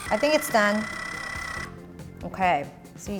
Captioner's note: machine powers off